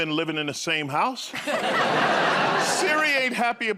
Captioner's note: laughter